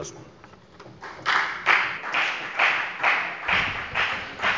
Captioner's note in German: Beifall bei der FDP